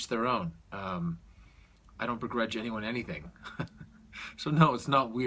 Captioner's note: chuckles